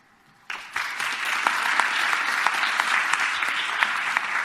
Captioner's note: audience applause